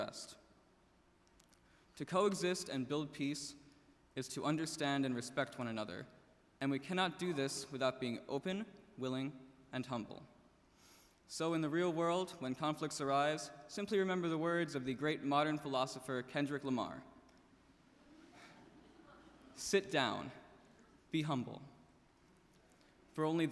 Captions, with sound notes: To coexist and build peace is to understand and respect one another, and we cannot do this without being open, willing, and humble. So in the real world when conflicts arise simply remember the words of the great modern philosopher Kendrick Lamar, (laughs) "Sit down, be humble, for only then can we make peace."